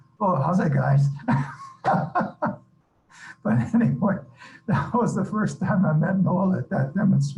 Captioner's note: laughter